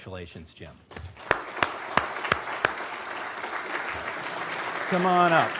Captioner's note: applause